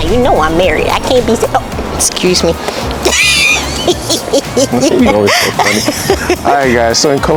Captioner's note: laughs